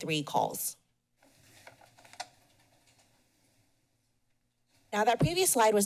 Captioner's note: pause